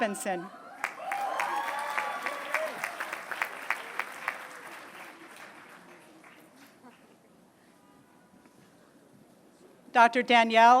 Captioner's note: applause